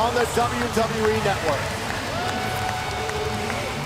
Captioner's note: crowd cheering